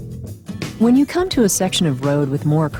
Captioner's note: voiceover